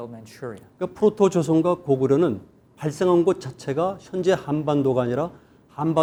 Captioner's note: speaking in Korean